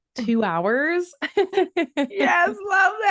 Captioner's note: laughs